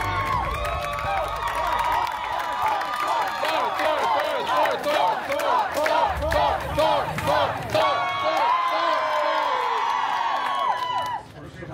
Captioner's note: guests cheering and applauding; guests cheering and chanting Thor’s name